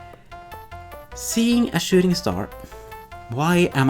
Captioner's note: sighs; exasperated